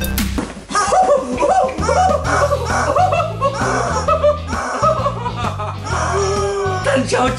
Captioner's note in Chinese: 各種歡呼聲